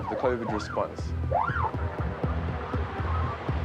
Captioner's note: siren wailing